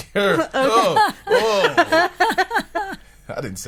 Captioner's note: group laughing